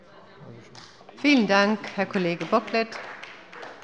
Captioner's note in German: Beifall bei dem BÜNDNIS 90/DIE GRÜNEN und der CDU